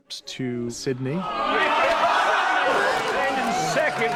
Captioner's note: crowd clamoring